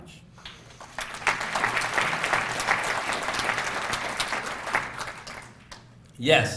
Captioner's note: applause